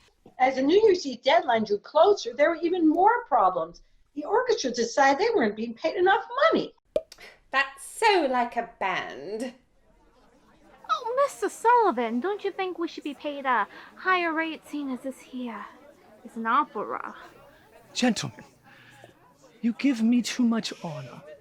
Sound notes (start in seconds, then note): 6.9 pop; 7.9 snootily; 9.6 murmuring crowd; 11.3 Brookyln accent